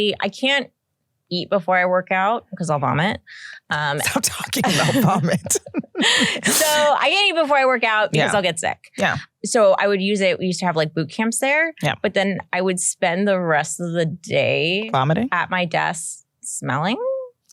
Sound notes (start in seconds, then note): 4.6 laughter